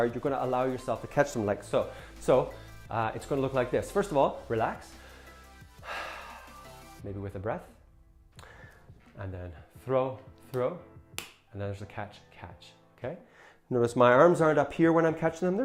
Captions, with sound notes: you're gonna allow yourself to catch them like so. So, it's gonna look like this. First of all, relax. (breathes heavily) Maybe with a breath. And then, throw, throw, and there's the catch, catch. K, notice my arms aren't up here when I'm catching them,